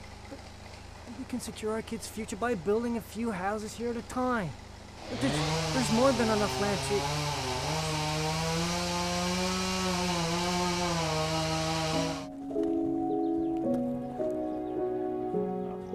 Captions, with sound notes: But we can secure our kids’ future by building a few houses here at a time. There’s more than enough land to... (CHAINSAW - CLOSE BY) (FARM ANIMAL SOUNDS)